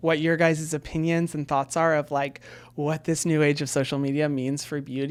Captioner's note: none